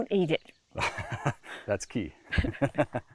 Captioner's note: chuckles